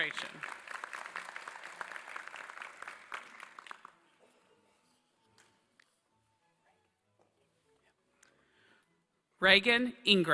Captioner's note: applause